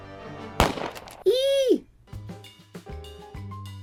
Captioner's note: gunshot